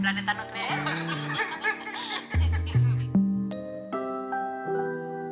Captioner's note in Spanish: Risas